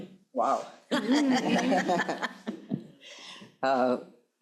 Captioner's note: crowd laughing